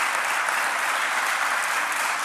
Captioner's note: applause